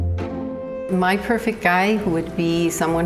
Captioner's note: laughs